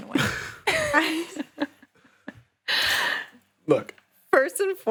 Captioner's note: laughing